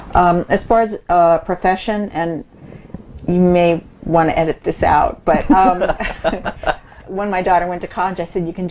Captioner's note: both laughs